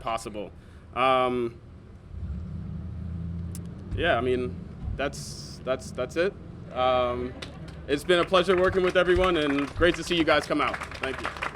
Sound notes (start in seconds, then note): 7.2 laughter